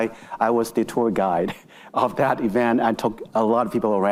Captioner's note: chuckling